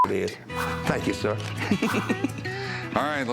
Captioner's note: laughs